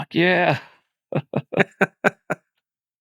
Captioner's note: laughing